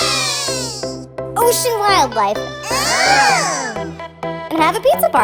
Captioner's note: mice cheer; mice squeal